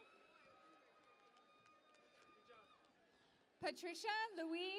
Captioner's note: cheering and Applause